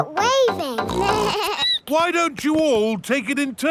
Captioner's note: snorts; bleats